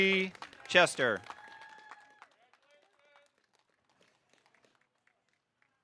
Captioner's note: audience cheering